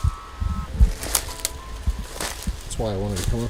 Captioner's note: soft ominous music; leaves crunching